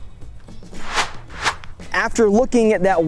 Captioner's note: whooshing